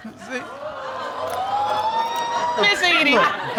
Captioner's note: audience exclaiming